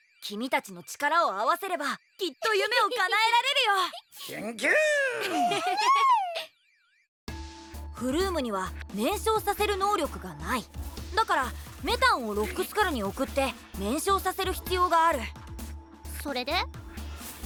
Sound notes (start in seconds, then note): 5.0 laughter